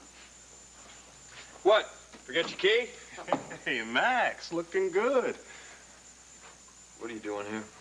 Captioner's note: knock on door